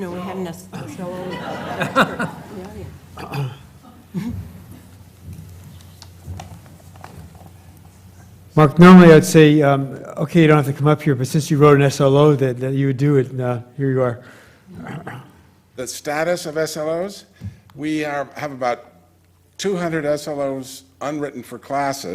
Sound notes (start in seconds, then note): 4.1 cough; 4.1 laugh